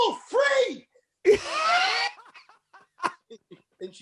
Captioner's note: laughter